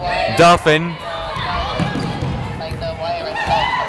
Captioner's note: yelling